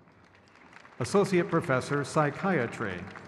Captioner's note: crowd claps